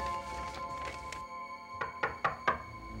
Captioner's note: knocking